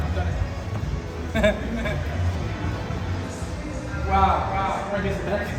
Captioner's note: laughs